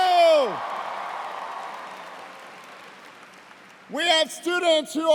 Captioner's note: cheers and applause